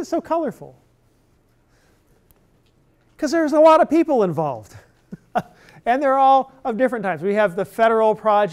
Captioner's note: laughter